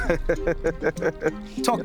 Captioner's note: laughs